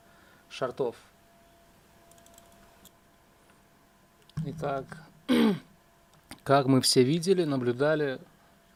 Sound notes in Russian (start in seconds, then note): 5.2 кашель; 5.3 откашливается